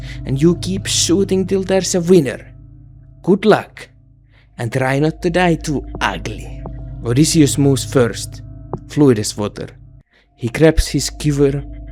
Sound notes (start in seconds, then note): none